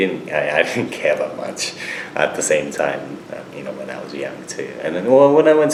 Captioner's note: laughs